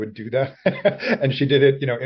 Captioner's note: laughter